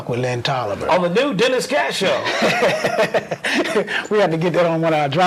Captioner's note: laughter